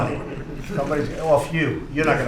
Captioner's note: laughter